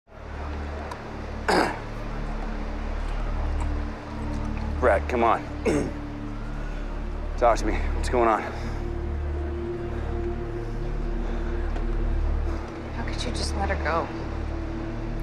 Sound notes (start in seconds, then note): 1.4 clears throat